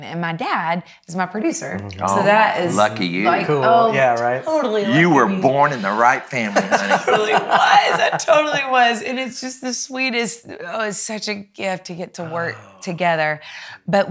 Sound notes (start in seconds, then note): 5.4 laughs